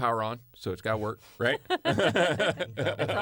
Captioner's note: laughter